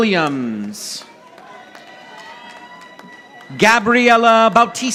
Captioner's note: audience applauding